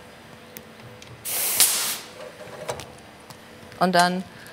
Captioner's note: hiss